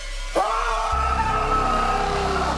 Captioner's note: screaming